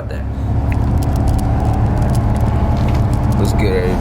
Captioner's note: car engine roars